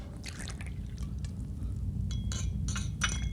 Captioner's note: alcohol bubbling; glasses clanking